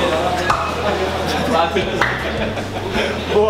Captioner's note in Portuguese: risadas